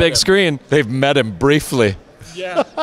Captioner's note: laughs